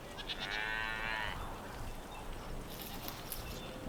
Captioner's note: sound of cows lowing